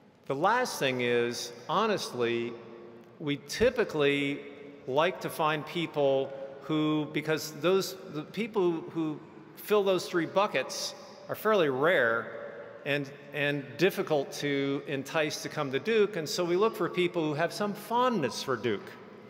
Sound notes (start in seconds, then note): none